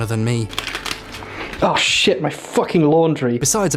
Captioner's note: crunching